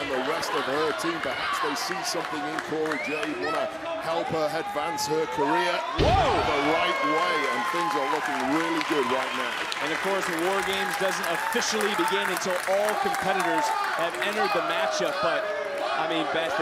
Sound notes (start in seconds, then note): 10.3 crowd cheering